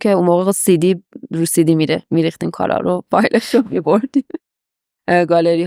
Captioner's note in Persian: خنده